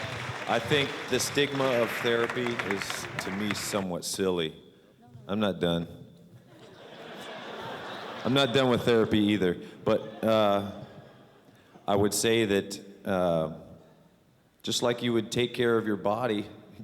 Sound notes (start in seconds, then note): 6.4 laughter